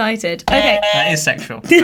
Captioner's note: buzzer honks